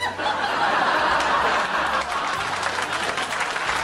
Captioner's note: laughs